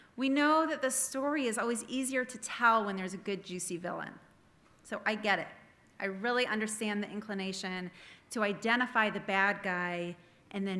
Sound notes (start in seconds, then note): none